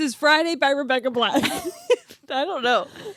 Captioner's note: laughing